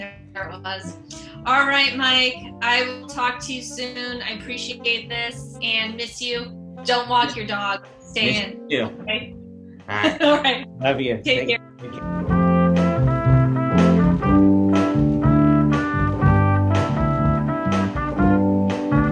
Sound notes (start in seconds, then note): 9.9 laughs